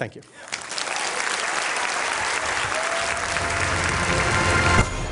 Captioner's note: applause